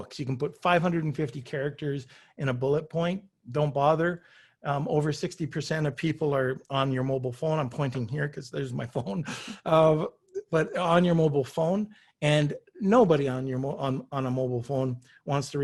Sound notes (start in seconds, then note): 10.0 chuckles